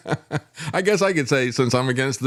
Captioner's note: laughs